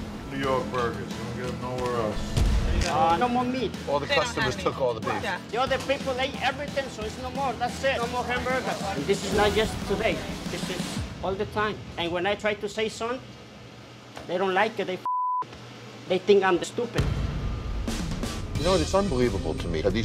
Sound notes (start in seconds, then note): 15.0 beep